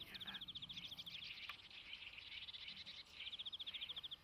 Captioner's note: birds calling